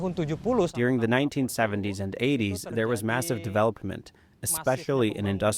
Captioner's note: through translator